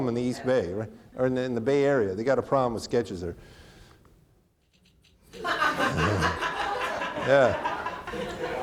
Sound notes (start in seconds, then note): 5.3 audience laughing; 5.3 chuckles